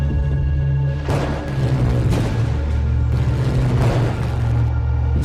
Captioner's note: electricity crackles